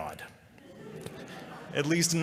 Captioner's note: laughter